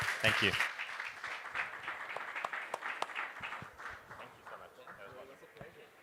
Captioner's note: applause